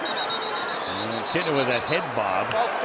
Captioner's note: whistles